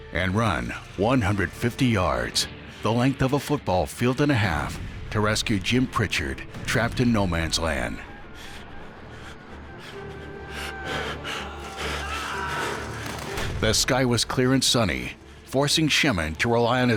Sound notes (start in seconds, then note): 8.4 men shouting; 9.0 man panting